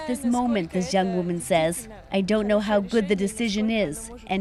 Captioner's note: speaking Foreign Language